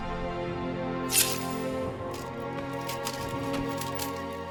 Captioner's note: sword scraping